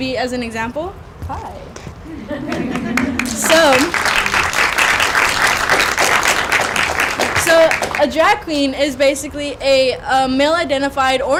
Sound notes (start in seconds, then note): 2.0 laughter; 5.3 applause